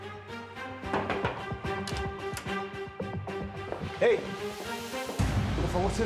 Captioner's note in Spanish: toques en la puerta